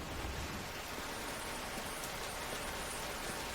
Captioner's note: rain storm